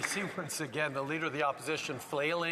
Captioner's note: some Applause